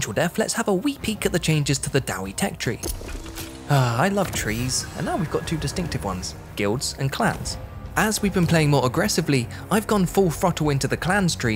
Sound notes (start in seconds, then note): 3.7 sigh